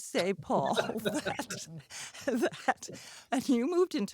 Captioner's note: laughs